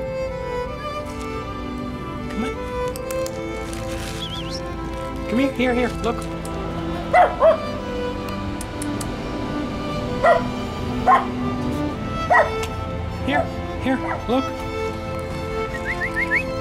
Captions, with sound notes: Come on. [Tongue clicks] [Whistle] Come here. Here, here, look. [Barks] [Tongue clicks] [Barks] Here, here, look. [Whistles]